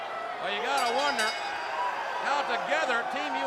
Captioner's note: bell ringing